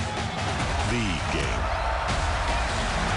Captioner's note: crowd cheering